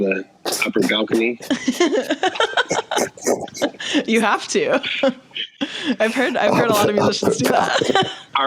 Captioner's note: laughs